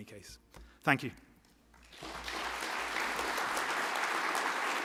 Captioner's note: applause